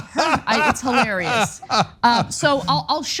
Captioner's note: laugh